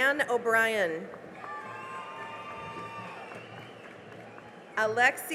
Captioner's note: cheering and applause